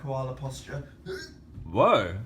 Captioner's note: grunts